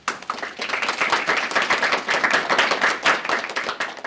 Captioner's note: applause